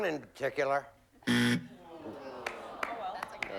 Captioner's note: buzzer